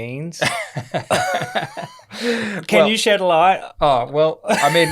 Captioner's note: laughter